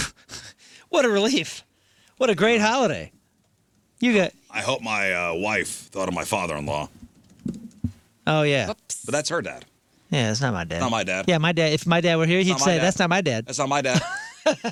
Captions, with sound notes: (laughing) What a relief. What a great holiday. You get-- I hope my wife thought of my father-in-law. Oh, yeah. But that's her dad. Yeah, that's not my dad. Not my dad. Yeah, my dad. If my dad were here, he'd say, "That's not my dad." That's not my dad.